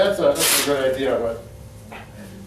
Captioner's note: velcro pulling